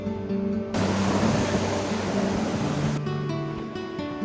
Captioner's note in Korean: 강력한 부산 바람